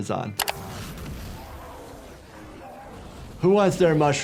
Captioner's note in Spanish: llamas ardiendo